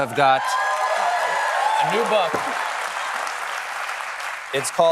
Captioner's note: cheers and applause